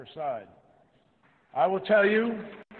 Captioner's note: applause